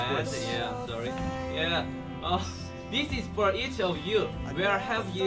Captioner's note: nervous